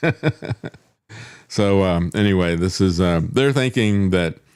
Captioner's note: laughing